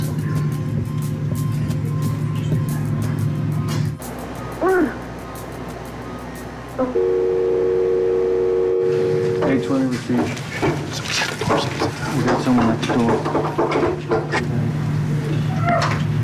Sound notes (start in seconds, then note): 4.6 woman grunts; 6.9 dial tone; 13.4 woman moaning